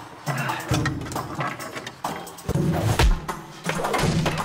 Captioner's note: thuds and banging